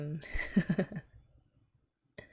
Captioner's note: laughs